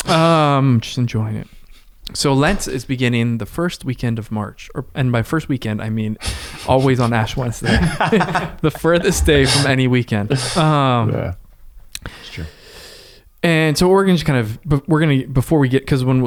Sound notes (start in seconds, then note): 6.2 chuckles; 7.9 laughing